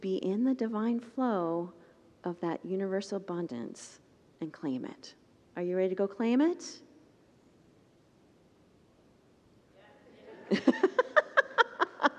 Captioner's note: congregants murmur